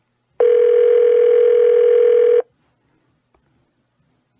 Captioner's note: phone still ringing